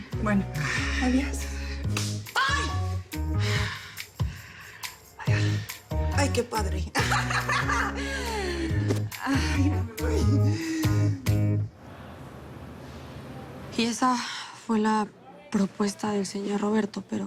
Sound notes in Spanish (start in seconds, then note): 2.3 Grito; 6.9 Risas